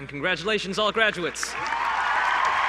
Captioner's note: applause